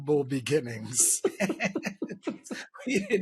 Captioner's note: laughter